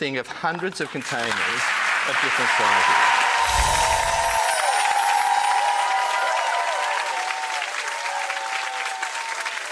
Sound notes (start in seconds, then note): 1.2 audience cheers; 1.7 audience applauds